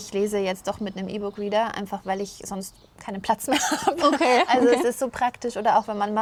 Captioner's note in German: gelächter